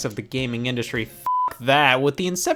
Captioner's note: beep